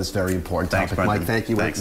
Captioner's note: laughter